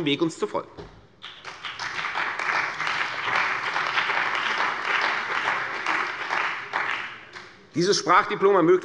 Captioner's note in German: Beifall bei der CDU und dem BÜNDNIS 90/DIE GRÜNEN